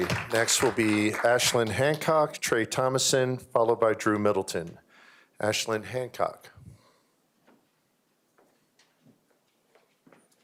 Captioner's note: applause